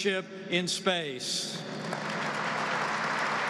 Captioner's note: applause